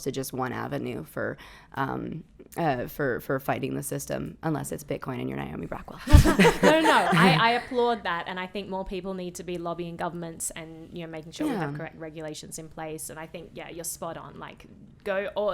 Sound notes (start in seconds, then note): 6.0 laughing